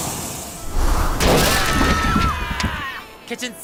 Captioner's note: screaming